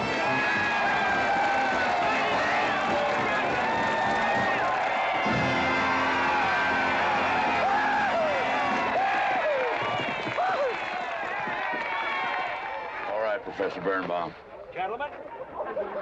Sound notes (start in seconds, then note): 0.3 crowd applauding & cheering; 9.9 hooves galloping